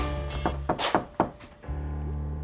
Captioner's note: knock on door